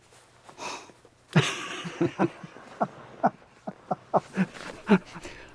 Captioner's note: both laughing